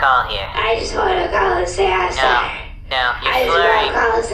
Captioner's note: drunkenly; slurring